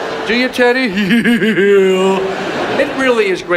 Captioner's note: audience laughs; chuckles